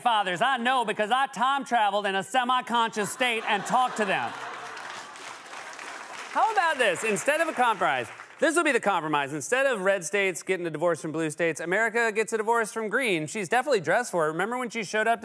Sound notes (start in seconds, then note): 4.7 laughter and applause